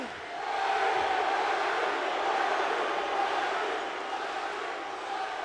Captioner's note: audience chants